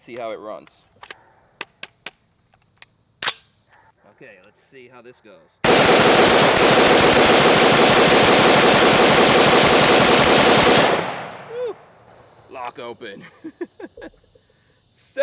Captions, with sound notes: and see how it runs. (clicking) OK, let's see how this goes. (rapid firing) Whoo. It's lock open. (laughing)